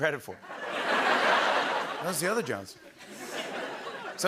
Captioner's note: laughter